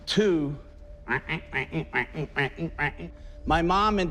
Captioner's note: mimicking wood rocking